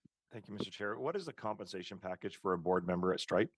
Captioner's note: speaking French